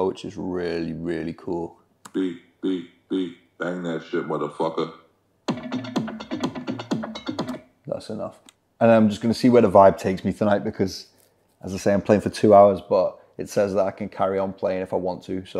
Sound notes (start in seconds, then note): 2.7 voiceover; 5.4 upbeat drum music